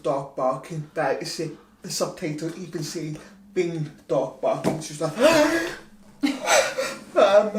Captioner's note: gasps